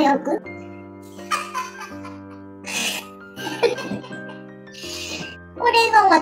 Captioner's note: laughs